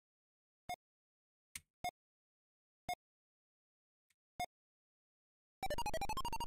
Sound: silence

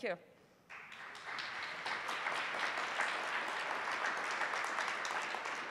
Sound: applause

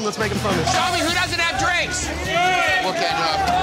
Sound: shouting

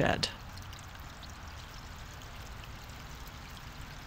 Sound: water running

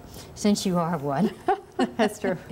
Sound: laughter

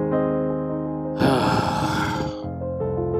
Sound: sigh

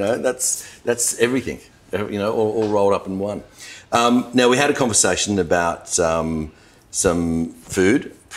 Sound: none

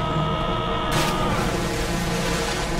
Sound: splash

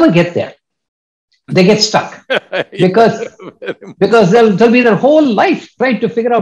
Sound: Sadhguru laughs

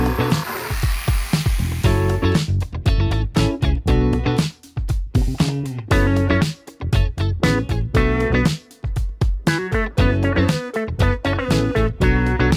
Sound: funky music; electric saw

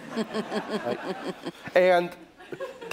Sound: laughter

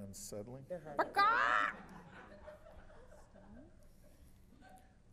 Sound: squawks

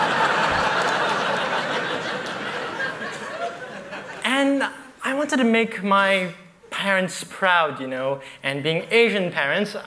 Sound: laughter

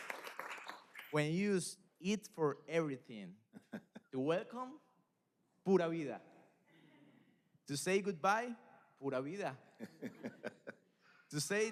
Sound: applause

